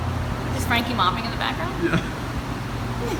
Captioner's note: laughs